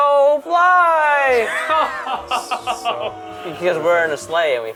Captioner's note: audience booing